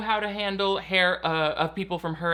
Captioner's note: none